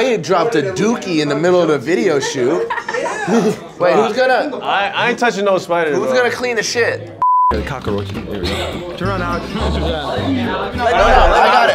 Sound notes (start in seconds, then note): 7.0 camera beeps